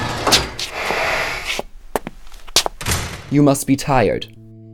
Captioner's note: metal sliding; loud footsteps thumping